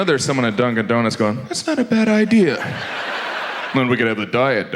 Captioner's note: audience laughs